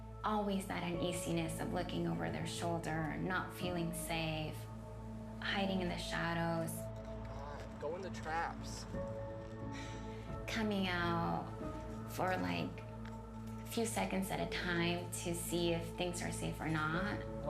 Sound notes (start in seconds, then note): 9.7 sighs